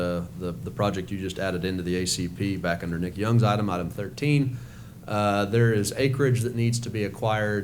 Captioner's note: none